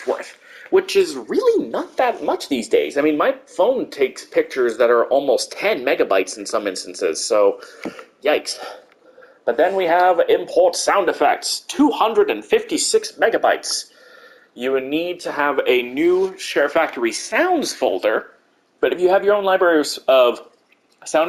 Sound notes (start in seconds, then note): 9.8 slightly dramatic voice; 11.6 normal voice